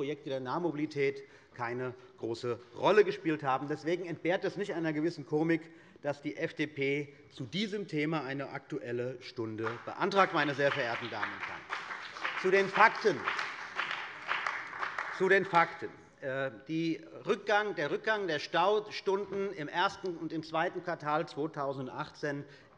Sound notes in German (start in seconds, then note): 12.4 Beifall bei der CDU und dem BÜNDNIS 90/DIE GRÜNEN